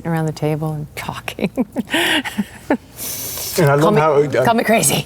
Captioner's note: laughs